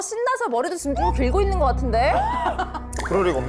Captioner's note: hair growth sound effect; denial sound effect